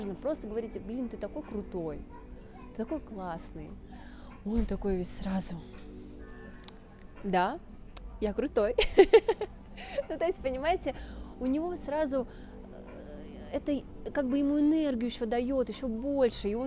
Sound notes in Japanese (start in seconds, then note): 8.8 笑笑笑